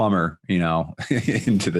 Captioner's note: chuckles